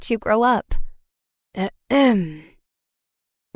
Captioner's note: ahem